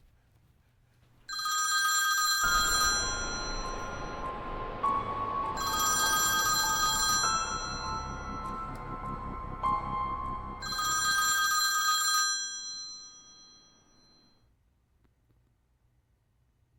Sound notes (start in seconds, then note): 1.3 phone rings; 4.2 tense ominous music; 10.6 phone ringing continues